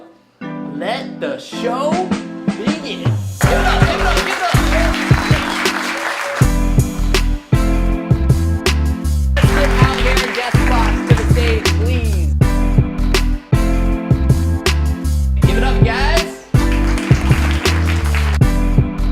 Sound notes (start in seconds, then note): 3.3 smooth music; 3.4 audience cheers; 12.8 smooth music; 16.6 audience clapping